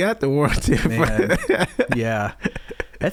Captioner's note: laughing